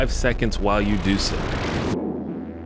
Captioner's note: warping sounds